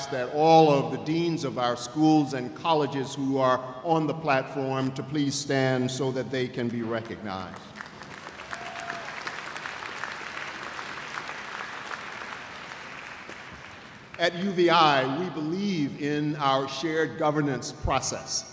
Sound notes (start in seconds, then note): 7.8 cheers and applause